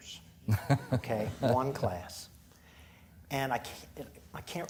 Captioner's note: chuckling